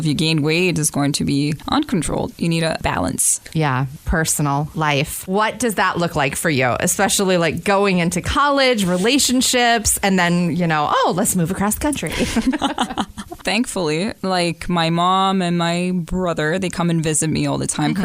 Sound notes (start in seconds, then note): 12.0 laughter